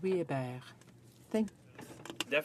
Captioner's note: speaking french